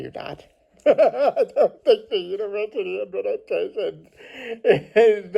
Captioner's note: laughs